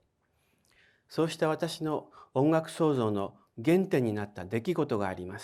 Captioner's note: speaking in foreign language